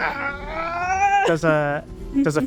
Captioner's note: imitates battle cry